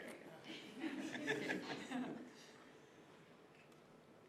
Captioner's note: group laughing